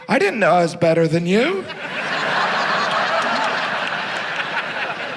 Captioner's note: audience laughs